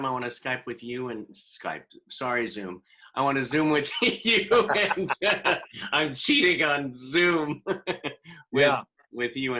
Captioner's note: laughter